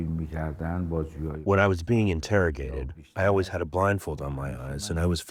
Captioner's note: through translator